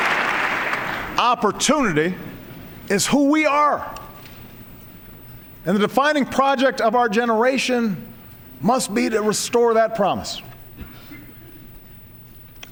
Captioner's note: applause